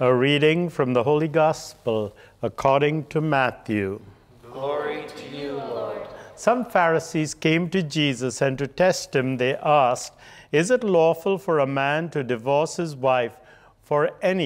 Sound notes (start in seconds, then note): none